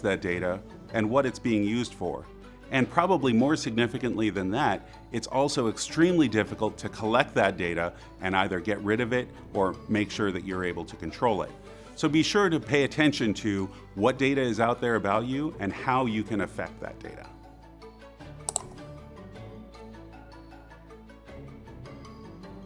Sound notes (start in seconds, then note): 18.5 mouse clicks; 19.2 bright upbeat music